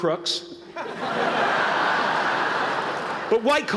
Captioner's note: laughter